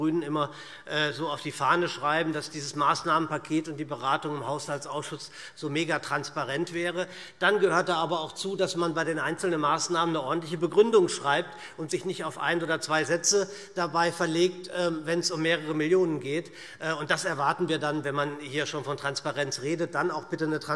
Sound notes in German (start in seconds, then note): none